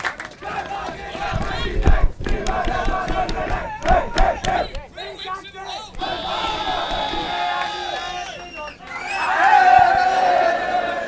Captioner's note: danish cheer